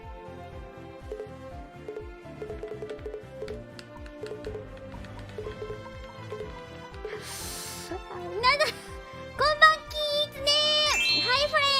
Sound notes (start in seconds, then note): 2.4 the sound of hitting the buttons on the controller randomly